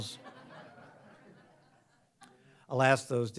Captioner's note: audience laughs